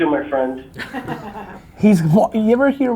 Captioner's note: laughs